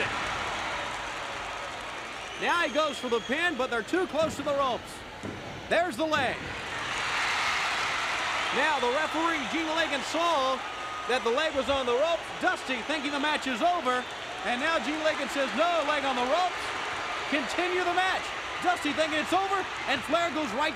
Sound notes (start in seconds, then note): 1.3 crowd cheering; 5.9 crowd cheering; 8.1 crowd cheering